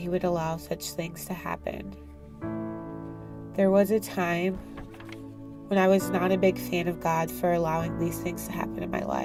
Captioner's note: page turn